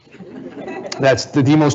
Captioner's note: audience laughing